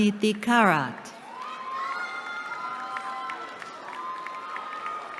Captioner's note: cheering